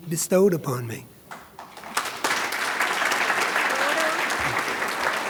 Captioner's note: audience claps